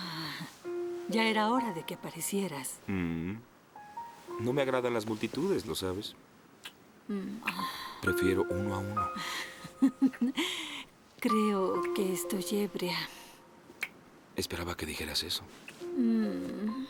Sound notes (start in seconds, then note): 9.8 Freddie laughs seductively; 13.7 smooching